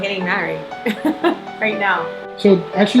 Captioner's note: laughing